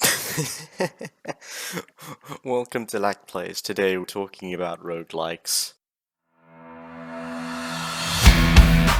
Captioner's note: laughs